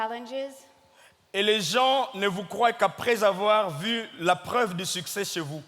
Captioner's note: speaking in French